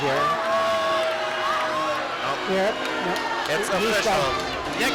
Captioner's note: crowd booing